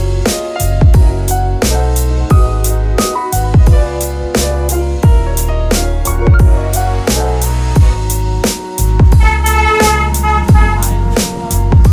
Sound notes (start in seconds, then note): 9.1 horns blowing